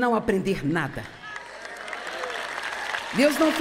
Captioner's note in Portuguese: plateia aplaudindo